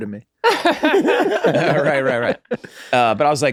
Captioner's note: everyone laughs